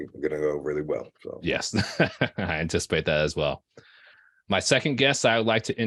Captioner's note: chuckling